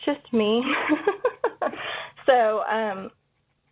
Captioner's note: laughs